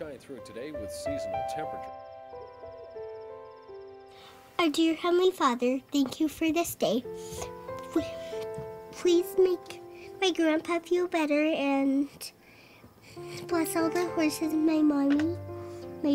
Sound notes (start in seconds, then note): 1.9 crickets chirping; 1.9 soft music